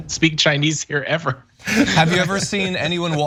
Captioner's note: laugh